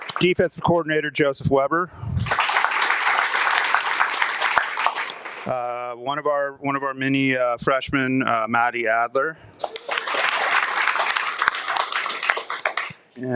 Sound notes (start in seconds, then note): 0.0 audience applauding and cheering; 2.2 audience applauding; 9.6 audience applauding and cheering